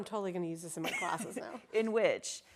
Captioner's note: laughs